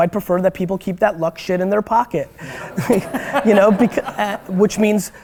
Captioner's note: laughter